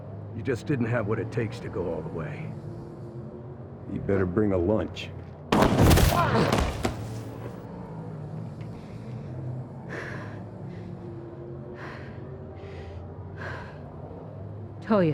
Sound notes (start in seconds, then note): 5.5 gunshot; 8.6 breathing heavily